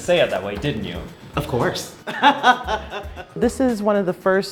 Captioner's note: laughs